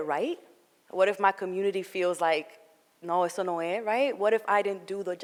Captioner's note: foreign language